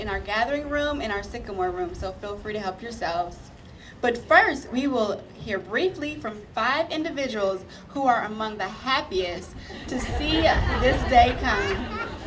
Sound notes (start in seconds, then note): 9.7 audience laughing